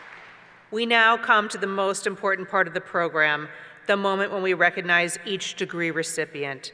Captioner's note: applause